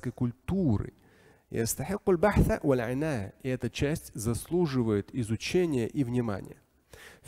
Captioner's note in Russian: Говорит на арабском